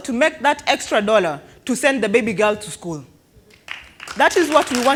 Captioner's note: applause